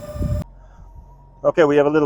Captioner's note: motors hum